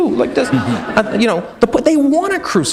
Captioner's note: chuckle